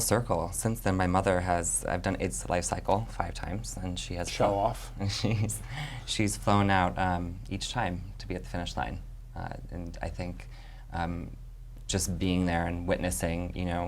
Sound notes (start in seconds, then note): 4.3 chuckles